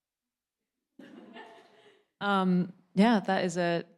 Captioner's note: audience laughing